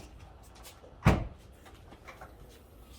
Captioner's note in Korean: 문여는 소리